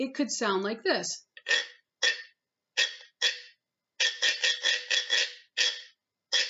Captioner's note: scraping sounds